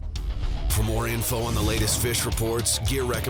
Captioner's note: voiceover